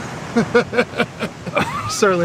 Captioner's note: laughter